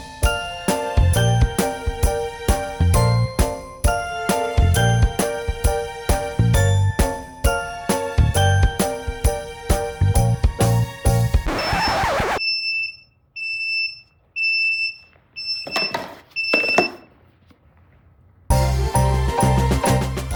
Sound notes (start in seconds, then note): 2.0 upbeat music; 9.8 record scratching; 11.4 beeping; 15.7 upbeat music